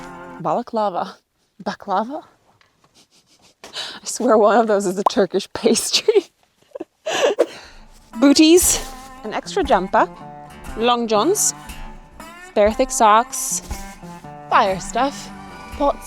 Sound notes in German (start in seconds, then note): 7.7 lacht